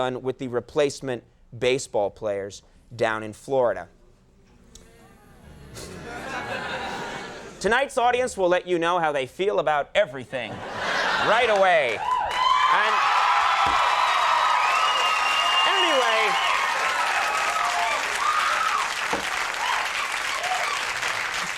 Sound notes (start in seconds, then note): 5.2 audience groans; 11.7 audience cheers; 18.3 audience applauds